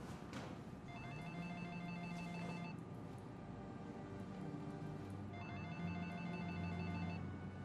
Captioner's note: phone rings